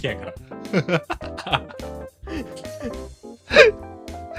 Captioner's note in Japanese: 笑い